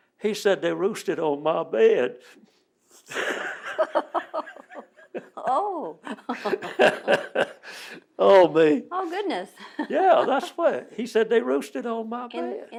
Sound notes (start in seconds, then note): 3.0 laughter